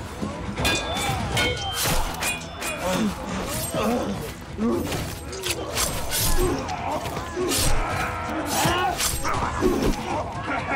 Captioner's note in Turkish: Kılıç sesleri